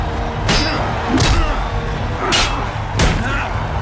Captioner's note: grunting